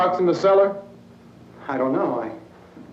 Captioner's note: none